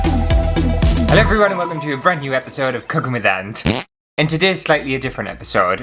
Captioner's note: intro Music; fart!